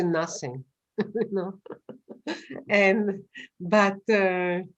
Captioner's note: laughs